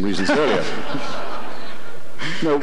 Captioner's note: audience laughter